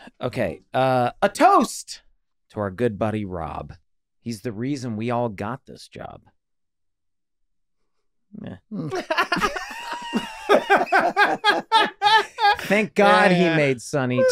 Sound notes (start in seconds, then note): 8.8 all laughing